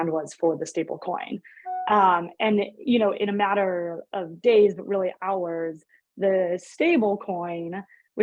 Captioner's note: electronic tone